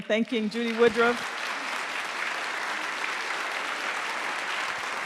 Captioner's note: applause